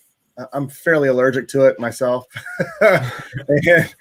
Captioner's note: chuckles